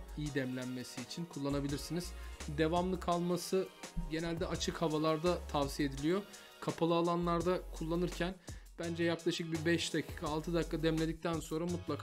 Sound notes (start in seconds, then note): none